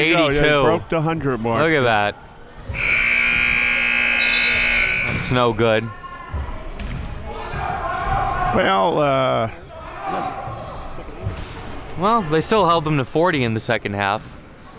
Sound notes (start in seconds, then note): 2.7 buzzer sounding